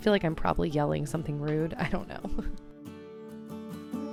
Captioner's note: laughing